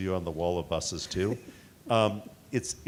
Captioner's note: chuckling